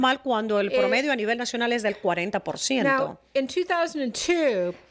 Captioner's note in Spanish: Hablando ingl\s